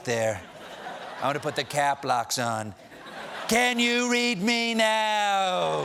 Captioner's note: yelling; laughter